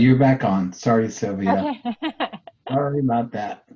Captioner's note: laughing